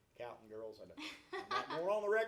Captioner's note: laughs